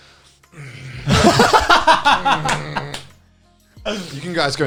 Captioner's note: laughs